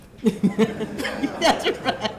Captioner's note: audience laughing